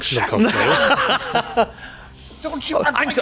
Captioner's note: laughing